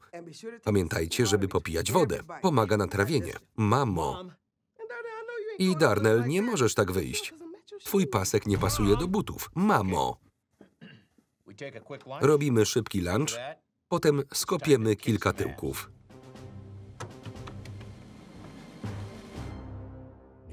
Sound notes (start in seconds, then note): 10.6 clears throat; 16.0 martial music